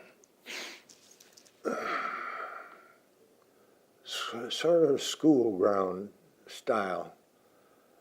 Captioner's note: takes a deep breath